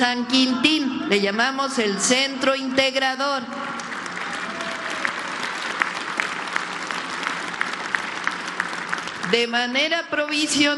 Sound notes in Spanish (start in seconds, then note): 7.6 aplausos